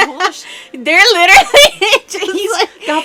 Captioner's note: hysterical laughing